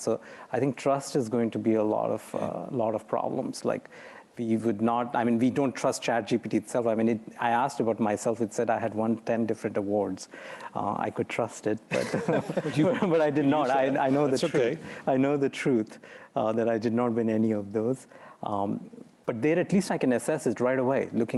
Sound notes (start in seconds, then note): 11.9 laughter